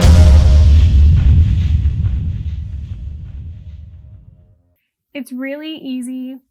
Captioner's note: explosion